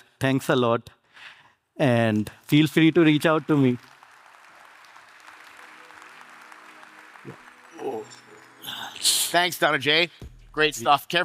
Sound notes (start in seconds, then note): 4.5 audience applauding